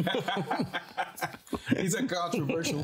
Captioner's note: group laughing